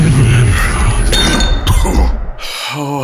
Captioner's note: sound of glass bottles clinking